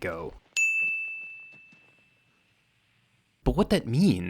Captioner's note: bell chimes